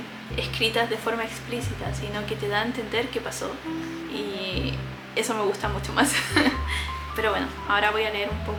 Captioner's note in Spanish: risas